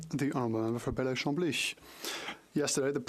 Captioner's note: speaking French